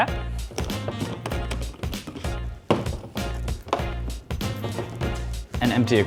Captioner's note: cap clatters